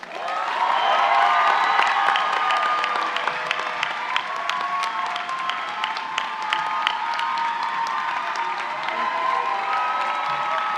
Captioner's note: applause and cheers